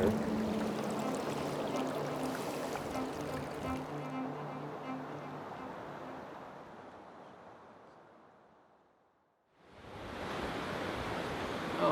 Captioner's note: water rushing